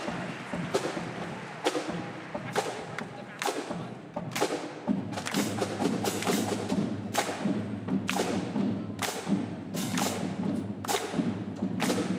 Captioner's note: applause